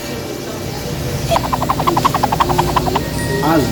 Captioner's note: laughs; cartoony swishing; magical ting